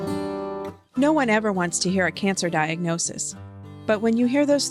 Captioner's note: voiceover